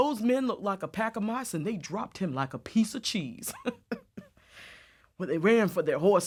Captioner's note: laughs